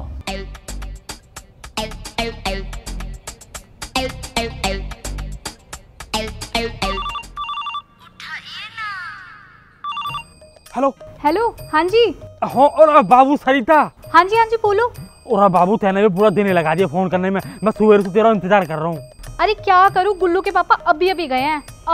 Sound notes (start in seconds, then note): 6.8 cellphone ringing